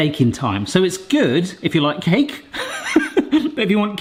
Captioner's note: laughs